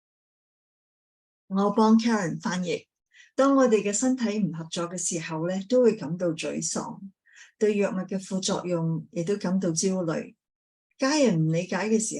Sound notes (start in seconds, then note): 1.5 speaking chinese